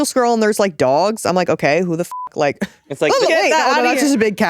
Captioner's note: beep